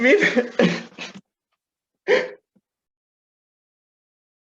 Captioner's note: cries